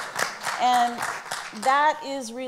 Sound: applauds

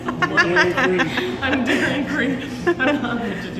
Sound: laughter

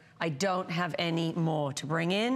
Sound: foreign language

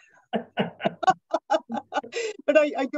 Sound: both laughing

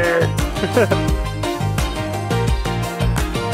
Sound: chuckles

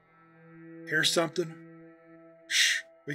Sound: whispers

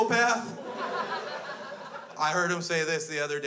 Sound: crowd laughs

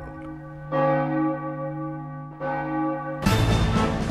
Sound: bell ringing; dramatic drumming music

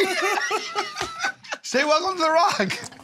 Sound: laughter; imitates Sean Connery

